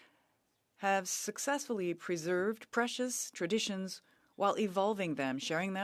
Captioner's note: speaking French